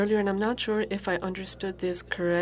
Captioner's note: speaking FRENCH